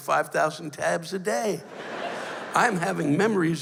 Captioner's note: laughter